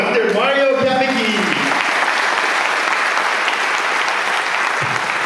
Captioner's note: audience applauds